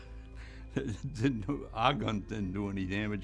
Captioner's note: laughs